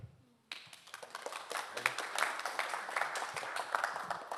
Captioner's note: audience Applauding